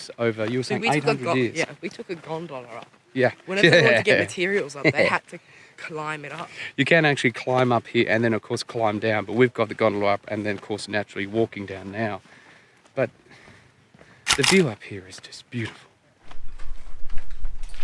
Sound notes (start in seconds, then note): 3.6 chuckling; 14.2 camera clicking